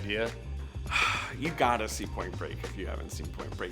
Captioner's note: sighing